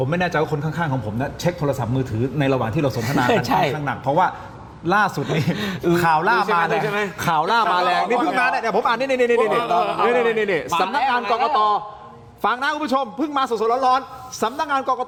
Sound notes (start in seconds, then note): 5.2 laughter